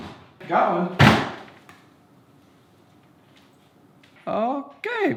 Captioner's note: table thuds